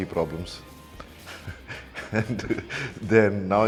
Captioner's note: laughs